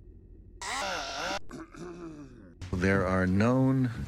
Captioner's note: clears throat